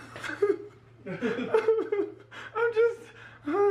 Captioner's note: cries